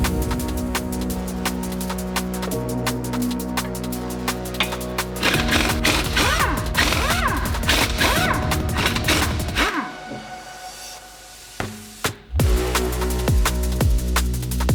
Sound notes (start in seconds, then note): 0.1 upbeat music; 5.2 impact whirring